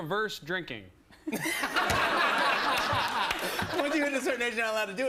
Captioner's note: laughter